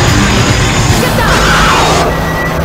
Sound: roaring

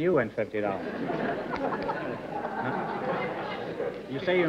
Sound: laughs

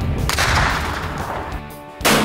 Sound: gunshot

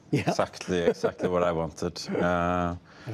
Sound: laughter

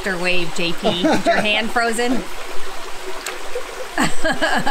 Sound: laughs; laughs

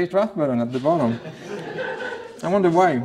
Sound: laughter

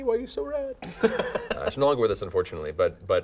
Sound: laughing

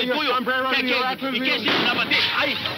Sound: gunshot

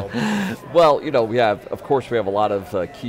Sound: laughes

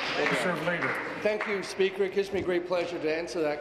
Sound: applause

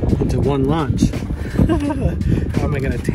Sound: laughing

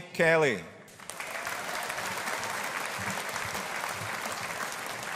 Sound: audience applauding

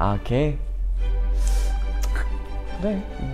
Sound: breath in; in a disapproving tone

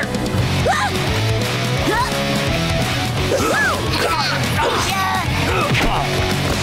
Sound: grunting

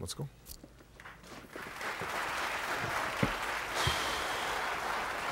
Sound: audience applauds

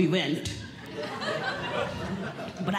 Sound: audience Laughing

